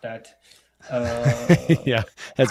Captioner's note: laughs